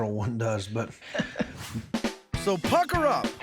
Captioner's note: chuckles